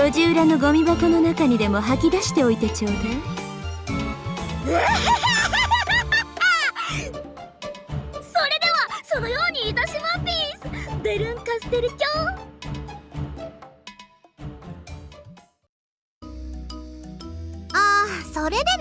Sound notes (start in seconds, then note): 4.6 giggle